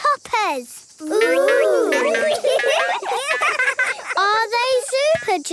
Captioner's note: laughing